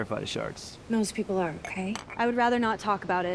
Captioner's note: wine glass clanks